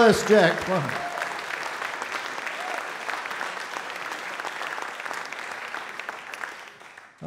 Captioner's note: audience Applause